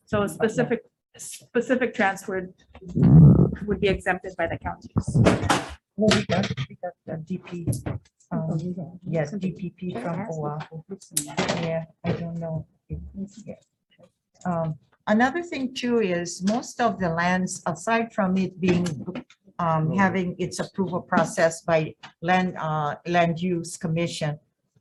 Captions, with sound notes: So a specific transfer would be exempted by the counties. (people murmuring) - Another thing too is most of the lands, aside from it being, having its approval process by land use commission,